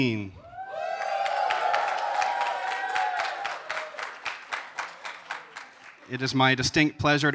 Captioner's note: applause